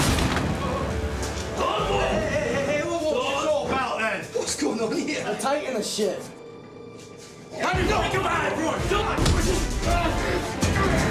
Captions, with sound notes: [door thuds] [men shouting] -What's going on here? -We're taking the ship. [men shouting]